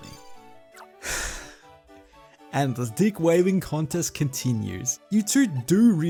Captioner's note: sigh